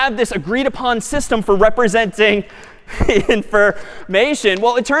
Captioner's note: خنده